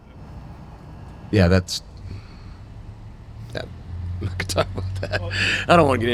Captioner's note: chuckles